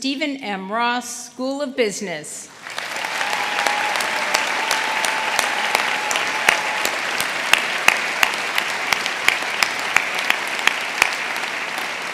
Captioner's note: applause